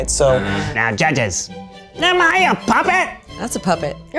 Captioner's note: in puppet voice